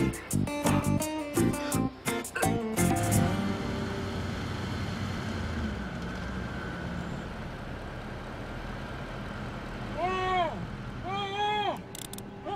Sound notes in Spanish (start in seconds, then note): 3.9 Ruido del vehículo; 9.9 Gritos ahogados